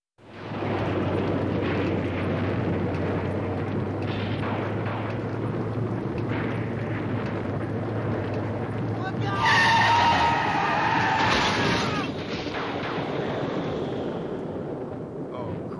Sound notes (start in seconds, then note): 0.3 lightning and thunder strikes; 9.2 group screams; 9.8 tires screech; 12.7 wind whistles